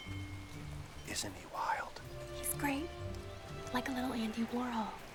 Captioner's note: whispering